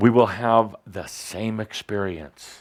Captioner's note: none